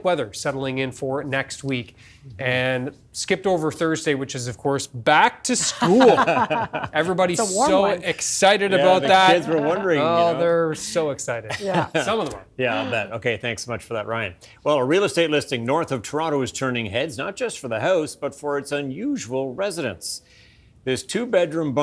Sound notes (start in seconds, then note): 11.5 laughter